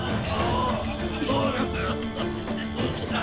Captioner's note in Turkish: Öksürme sesi